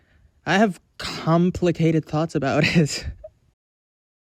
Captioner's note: laughs